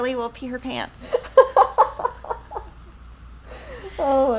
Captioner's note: laughing